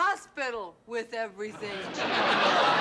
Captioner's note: laughter